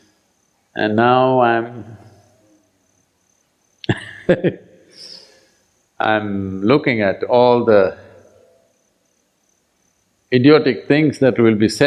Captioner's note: laughs